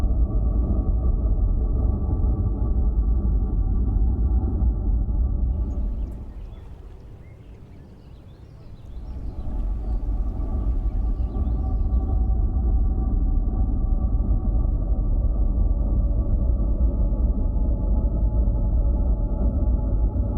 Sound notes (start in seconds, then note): 0.2 low rumbling; 5.6 birds chirping; 9.8 low rumbling